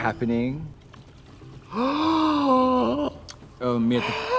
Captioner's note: water splashes; Trixie gasping